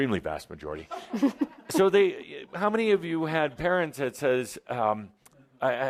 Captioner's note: laughter